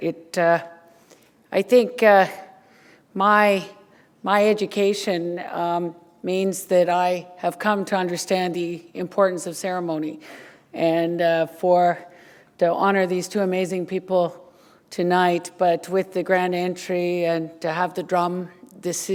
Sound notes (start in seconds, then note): none